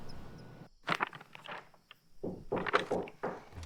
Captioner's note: papers rustling; door knocking